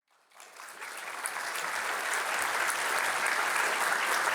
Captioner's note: audience applauding